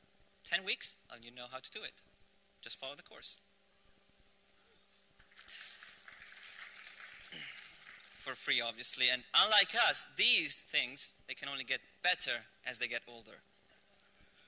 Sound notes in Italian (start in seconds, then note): 5.2 applausi